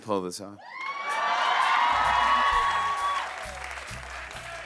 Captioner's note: cheers and applause